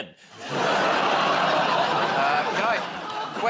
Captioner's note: laughter